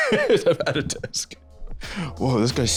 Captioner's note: laughing